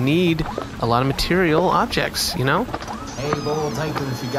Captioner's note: door opens